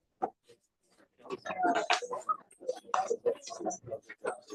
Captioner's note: background chatter